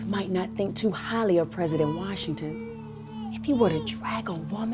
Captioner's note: none